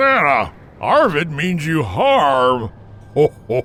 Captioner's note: chuckles